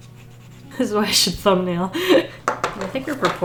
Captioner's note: laughs